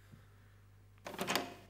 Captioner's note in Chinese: 开门声